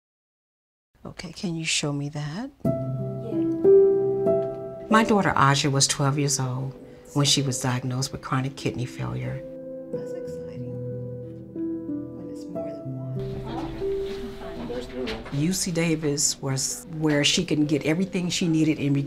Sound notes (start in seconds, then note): 4.2 soft music; 10.2 soft music; 13.2 people chattering